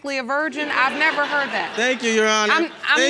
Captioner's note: audience laughing